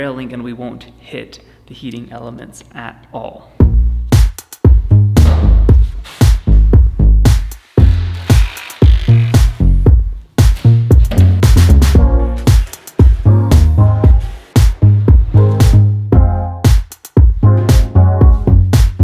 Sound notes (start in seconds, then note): 3.5 upbeat music; 8.1 drill whirs